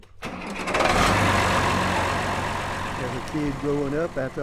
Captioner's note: engine roaring